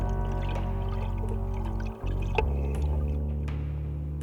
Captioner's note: water sloshing